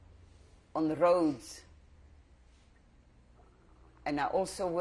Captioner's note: pauses for 3 seconds